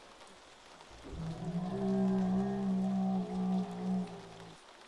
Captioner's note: creature growling